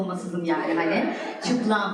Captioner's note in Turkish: Gülüşmeler